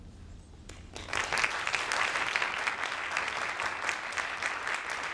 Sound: audience applauding

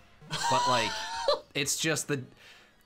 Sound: laughs

